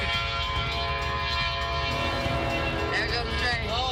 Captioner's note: train horn blowing